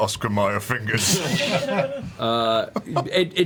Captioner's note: laughter